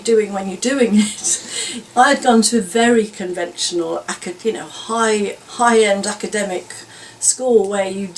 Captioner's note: laughs